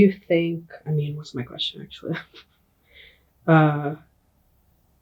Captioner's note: chuckles